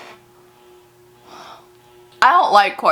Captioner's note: sighs